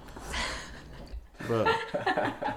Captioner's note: both laughing